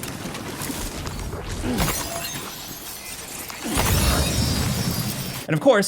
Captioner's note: crystals tinkling